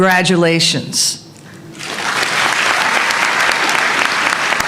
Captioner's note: applause